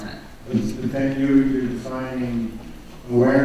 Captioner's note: voiceover